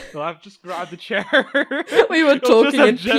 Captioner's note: laughs